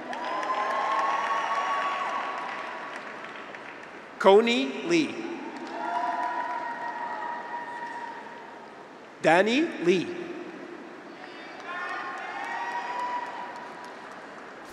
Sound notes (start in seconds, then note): 0.0 graduates cheer; 0.0 audience applauds; 4.8 graduates cheer; 6.0 audience applauds; 11.0 graduates cheer; 11.5 audience applauds